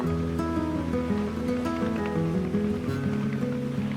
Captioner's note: waves lapping and motor chugging